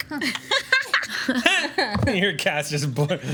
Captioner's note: group laughs